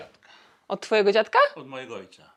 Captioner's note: grandpa speaks foreign language; speaks foreign language; grandpa speaks foreign language